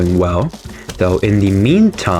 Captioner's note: inhales Oxygen